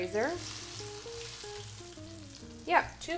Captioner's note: oil sizzling